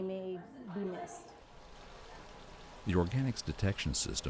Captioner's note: sound of water running